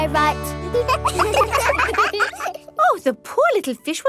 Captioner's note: children laugh